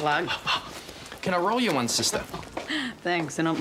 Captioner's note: chuckles